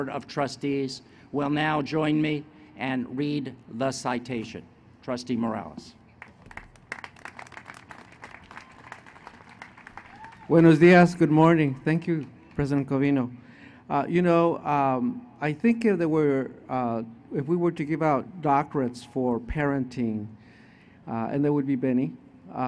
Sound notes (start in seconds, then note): 6.2 applause